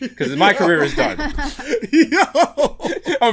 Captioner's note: laughter